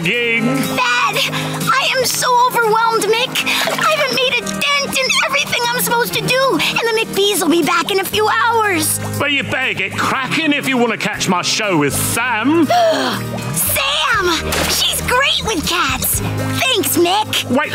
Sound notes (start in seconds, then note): 12.6 gasping